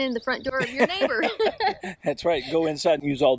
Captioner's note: laughter